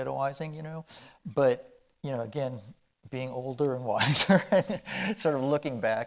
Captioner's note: chuckling